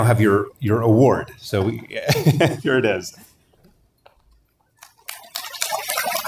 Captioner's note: laugh; applause